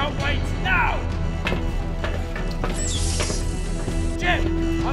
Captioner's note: suspenseful music; door hissing